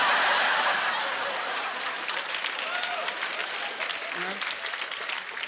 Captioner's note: laughing and applause